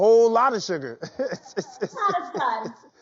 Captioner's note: laughs